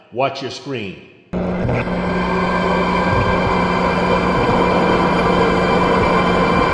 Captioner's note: dramatic music; static crackling